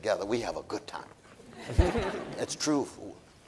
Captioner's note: audience laughing